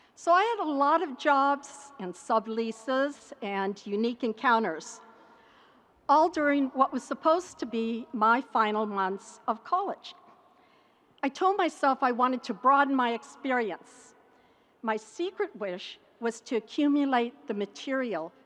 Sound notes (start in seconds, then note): none